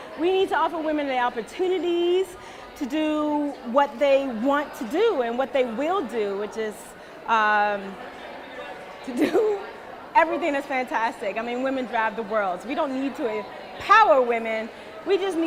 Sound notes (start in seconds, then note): 9.1 laughs